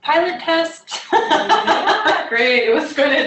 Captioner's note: laughter